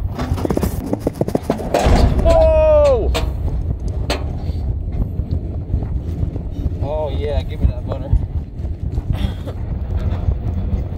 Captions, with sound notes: (loud bang) Whoa! Oh yeah, give me that butter!